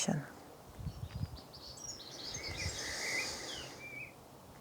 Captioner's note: birds chirping